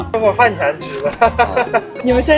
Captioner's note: hearty laughter